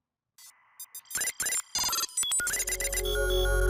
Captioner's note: electronic bleeps; dramatic music climaxing